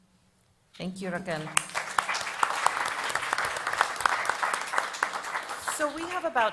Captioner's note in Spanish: Aplausos